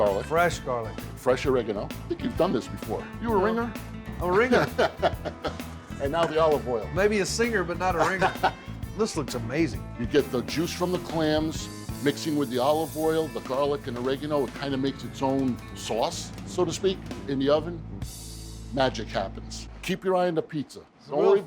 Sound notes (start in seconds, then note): 7.9 laughs